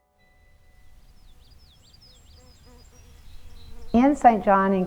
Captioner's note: birds Chirping